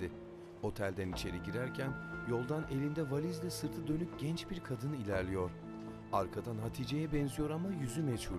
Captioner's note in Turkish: Müzik - Gerilim; Ayak sesleri